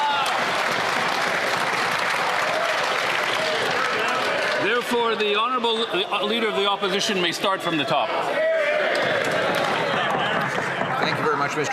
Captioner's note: some Applause